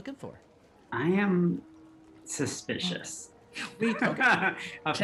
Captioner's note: laughs